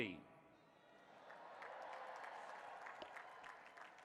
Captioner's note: applause